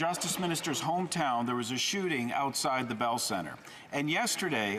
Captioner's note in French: voix de l'interprète